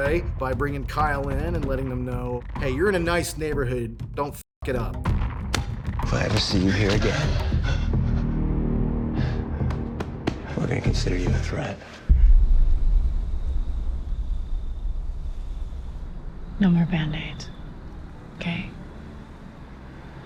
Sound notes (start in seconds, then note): 7.6 Kyle panting; 11.9 tense music; 12.2 crickets chirping